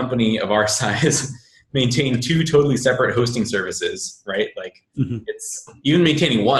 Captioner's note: laughing